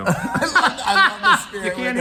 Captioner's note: laughs